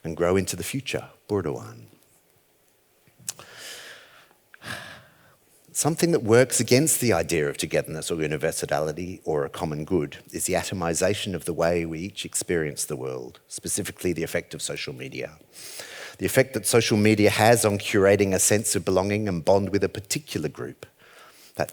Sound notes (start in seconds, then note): 1.0 speaks foreign language; 4.6 sighs